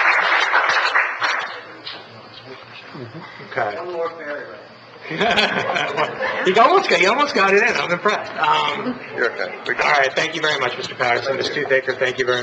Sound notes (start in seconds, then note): 5.1 laughs